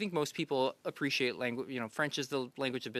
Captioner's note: speaking French